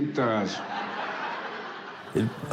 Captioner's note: laughter